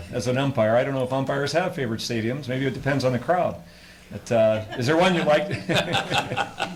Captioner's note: laughter